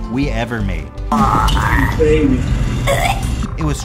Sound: gagging

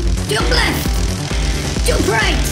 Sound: crackling electricity

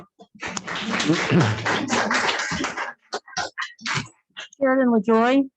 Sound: audience applauds

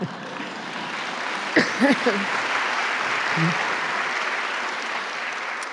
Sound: applause

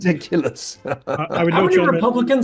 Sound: laugh

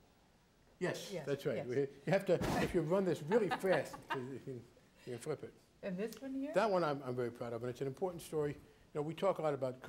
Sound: laughs

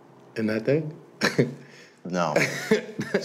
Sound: chuckles

